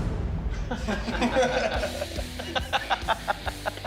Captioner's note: laughter; rock music